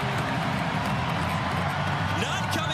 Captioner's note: cheering